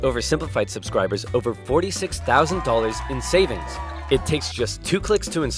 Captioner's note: crowd cheering